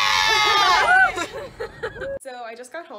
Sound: unison cheering

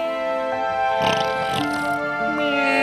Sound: snoring

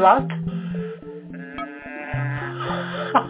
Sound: humming sound; laughing

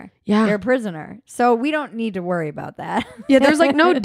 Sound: chuckles

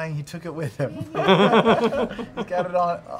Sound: laughter

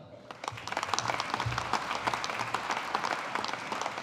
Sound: audience applauding

